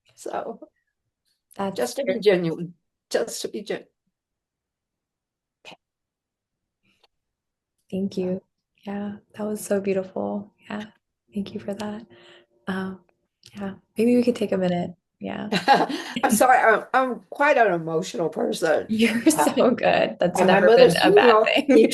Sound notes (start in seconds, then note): 15.6 laughs